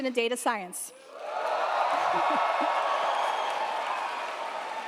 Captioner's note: students cheering